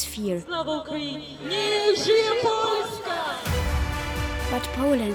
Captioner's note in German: auf Ukrainisch; auf Polnisch